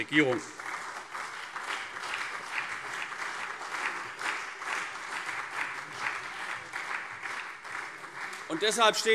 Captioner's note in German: Beifall CDU, SPD und Freie Demokraten